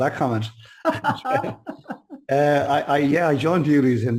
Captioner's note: laughs